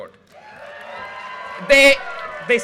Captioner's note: audience cheers and applause